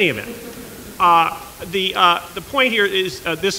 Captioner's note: laughter